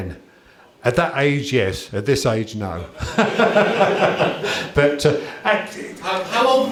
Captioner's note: laughter